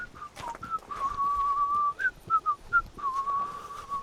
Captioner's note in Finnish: vihellys